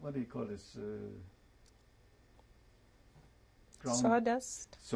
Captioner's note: pauses for 3 seconds